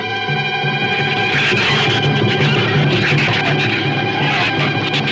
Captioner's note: shrews screech